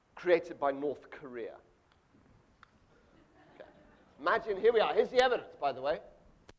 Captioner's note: audience laughs